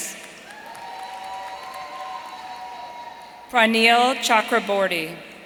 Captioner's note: audience cheering